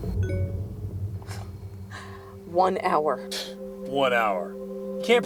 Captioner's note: notification sounds; scoffs